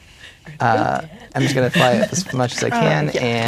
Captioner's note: players laughing and talking